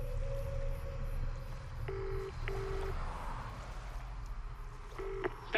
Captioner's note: ominous music; line trilling